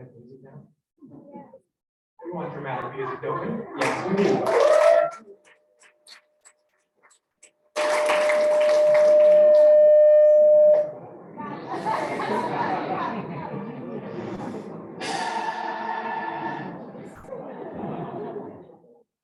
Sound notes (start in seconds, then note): 16.5 applause